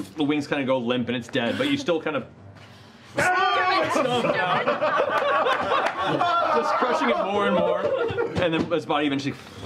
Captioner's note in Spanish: gritos